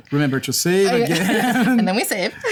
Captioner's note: laughter